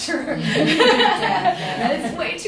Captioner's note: laughter